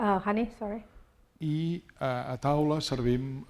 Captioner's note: speaking spanish